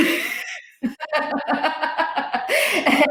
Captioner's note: laughs